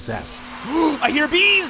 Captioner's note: gasp